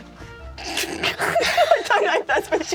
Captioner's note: laughs